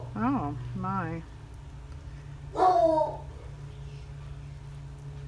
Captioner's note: dog barks